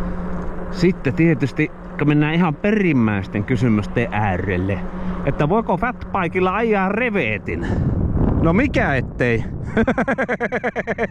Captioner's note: laughter